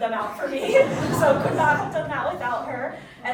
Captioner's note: audience chuckling